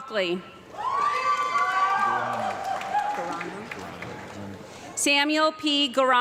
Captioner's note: audience clapping and cheering